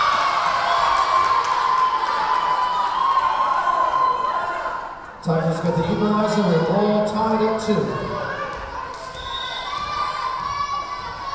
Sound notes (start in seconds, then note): 0.0 cheering; 0.6 whistle blowing; 2.1 cheering; 2.1 clapping; 9.0 whistle blowing; 11.1 yelling